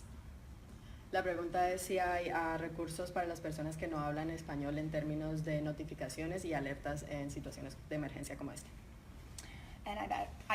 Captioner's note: speaking in Spanish